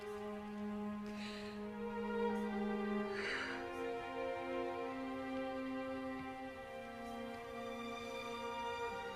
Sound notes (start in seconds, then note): 3.0 sighs